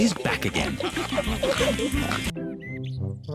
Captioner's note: all giggling and snorting